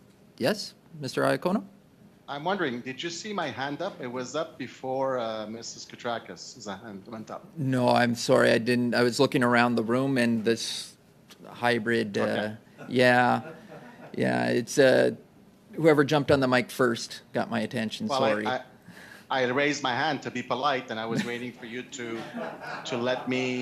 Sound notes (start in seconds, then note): 17.4 laughter